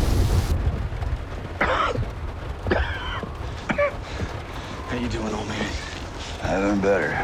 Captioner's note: coughing